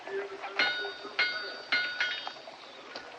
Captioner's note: metal Clanging